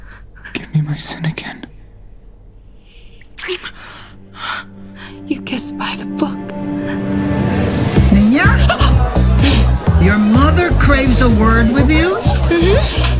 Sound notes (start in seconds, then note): 3.3 kiss